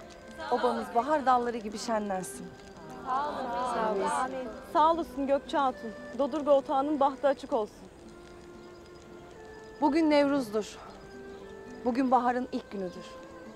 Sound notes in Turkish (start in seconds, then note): 0.2 Hep bir ağızdan; 3.0 Hep bir ağızdan